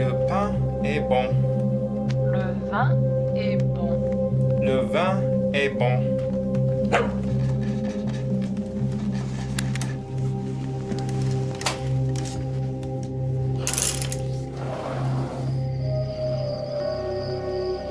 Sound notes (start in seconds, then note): 6.8 dog barking; 9.8 ominous music